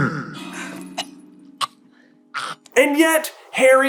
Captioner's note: coughhackcough